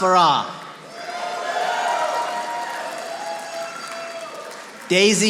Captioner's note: audience applauding